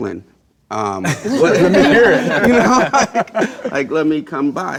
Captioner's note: collective laughter